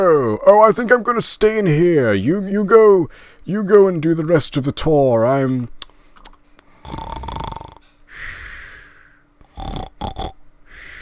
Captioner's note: snore